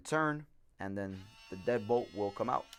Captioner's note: buzzing